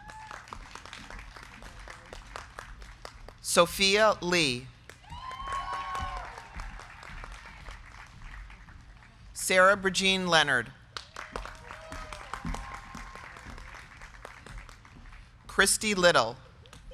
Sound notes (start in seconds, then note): 0.0 crowd cheering; 0.2 crowd clapping; 5.0 crowd cheering; 5.3 crowd clapping; 11.1 crowd cheering; 11.3 crowd clapping